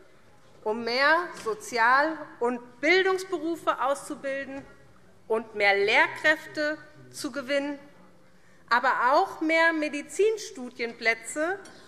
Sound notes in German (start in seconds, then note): none